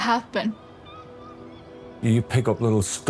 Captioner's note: seagulls caw, music continues